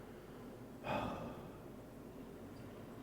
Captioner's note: sigh